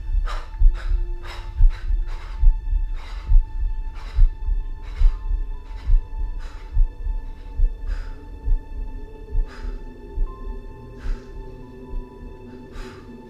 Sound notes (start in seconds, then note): 9.2 breathing